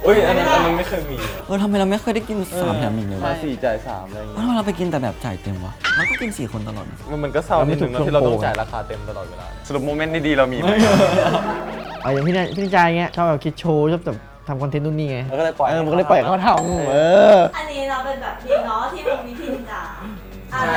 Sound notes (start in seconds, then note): 11.1 laugh